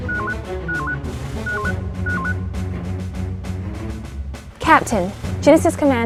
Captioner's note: communication beeper